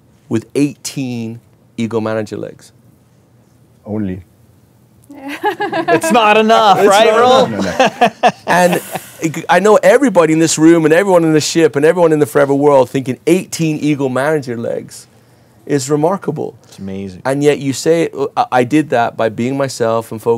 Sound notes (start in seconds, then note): 5.2 laughs